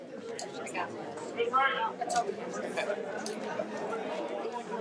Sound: audience chattering

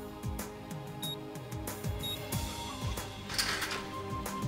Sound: beeping

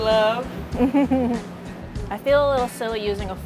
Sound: giggles

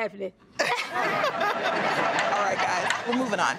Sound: everyone laughing

